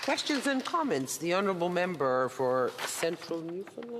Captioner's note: applause